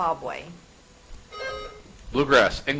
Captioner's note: buzzer chimes